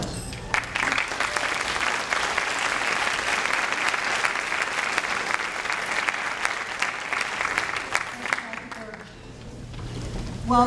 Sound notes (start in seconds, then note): 1.5 audience clapping